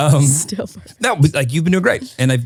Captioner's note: laughing